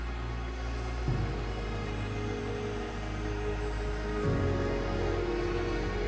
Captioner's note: gentle music; blower whooshing